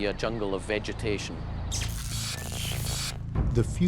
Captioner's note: buzzing and crackling